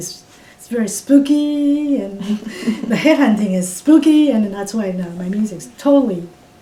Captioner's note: laughs